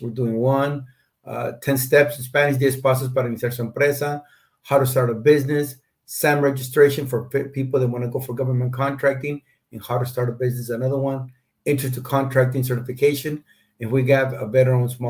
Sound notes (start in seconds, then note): 2.8 speaking Spanish